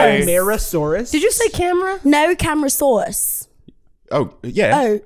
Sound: British accent

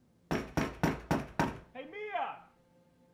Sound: knocks booming

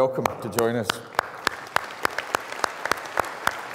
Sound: applause

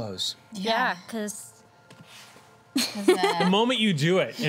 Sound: laughs

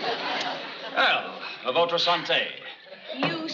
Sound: speaking french

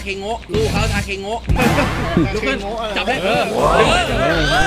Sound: laughs; cheering

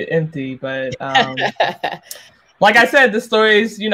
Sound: laughs

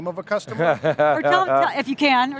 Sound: laughs

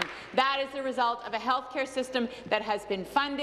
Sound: applause

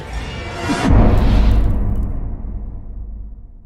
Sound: impact

